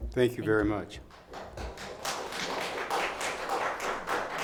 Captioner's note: clapping